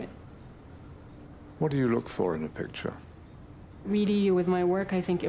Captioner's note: voiceover